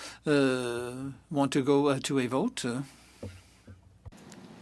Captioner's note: speaking French